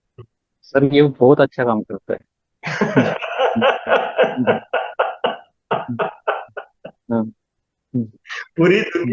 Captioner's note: laughing